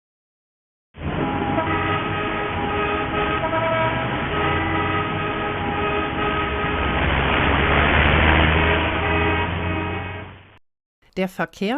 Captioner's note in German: Verkehrlärm, hupende Autos, Rauschen